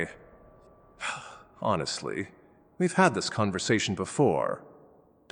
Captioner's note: sigh; exasperated